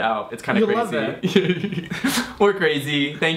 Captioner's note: laughs